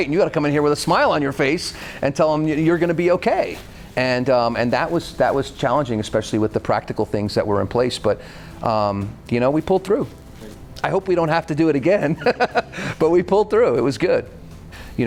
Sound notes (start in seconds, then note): 12.0 laughing